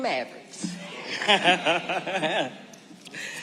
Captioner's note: audience responding; laughing